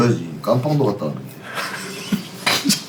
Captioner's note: laughs